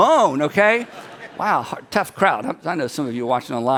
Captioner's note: people laugh